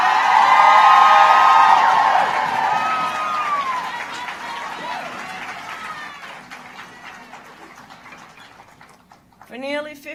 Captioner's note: applause